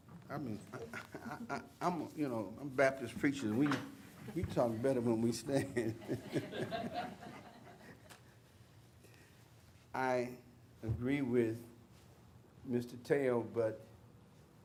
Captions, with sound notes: I'm a Baptist Preacher, we talk better when we stand. (laughter) I agree with Mr. Tello, but I say again...